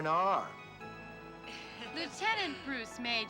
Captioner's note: people laughing